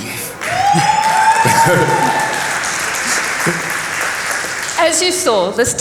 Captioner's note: cheers